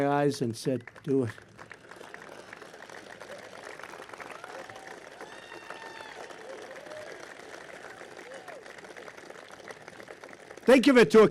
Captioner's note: applause